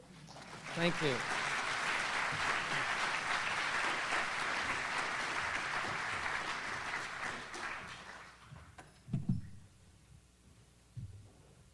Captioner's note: audience applauds